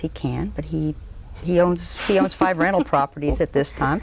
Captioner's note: laughter